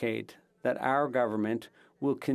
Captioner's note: speaking French